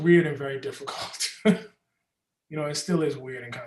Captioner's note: Ta-Nehisi chuckles